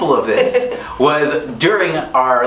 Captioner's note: laughing